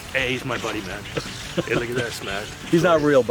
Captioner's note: laughs